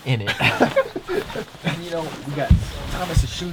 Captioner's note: laughing